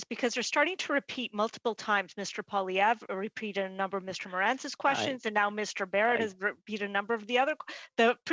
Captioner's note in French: voix de l'interprète